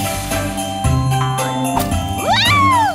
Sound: christmassy tune playing; boing

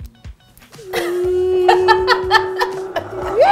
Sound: laughs

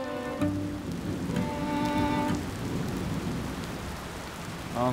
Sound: rain falling

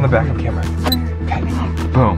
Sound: blip

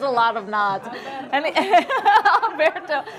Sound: laughter

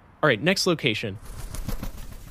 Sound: wingbeats

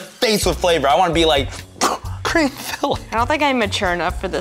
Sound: imitates slap

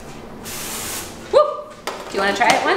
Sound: sprays oil

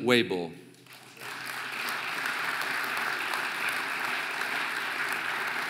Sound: audience applauding

